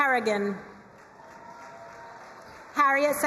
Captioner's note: crowd cheering and applauding